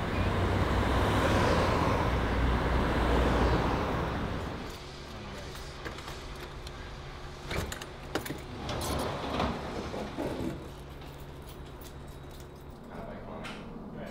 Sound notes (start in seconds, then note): 0.0 cars passing; 8.2 door opening